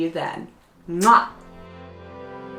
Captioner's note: gentle music; kissing